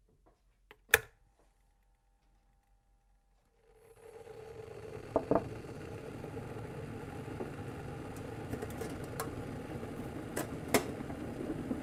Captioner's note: sound of boiling water